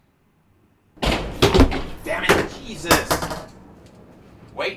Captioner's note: object bangs